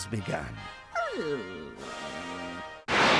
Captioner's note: whines